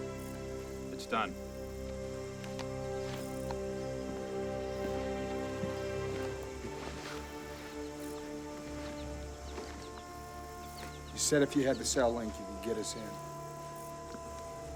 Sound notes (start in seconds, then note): none